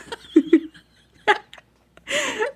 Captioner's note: both laughing